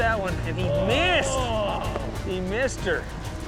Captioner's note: groans